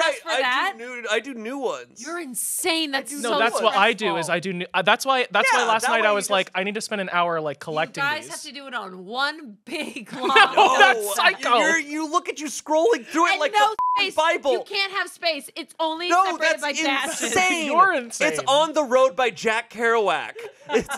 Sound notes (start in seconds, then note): 13.7 beep